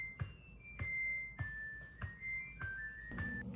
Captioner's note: laundry ending sound